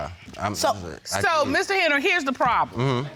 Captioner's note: stuttering